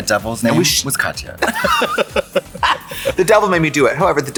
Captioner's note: both laugh